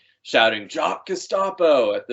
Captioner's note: laughing